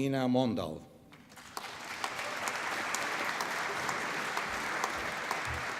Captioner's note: applause